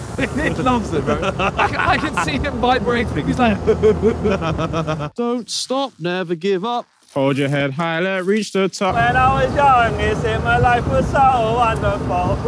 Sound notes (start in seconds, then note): 0.1 Josh laughing